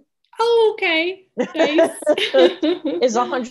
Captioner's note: laughing